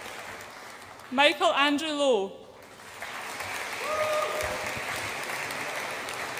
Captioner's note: audience applauds and cheers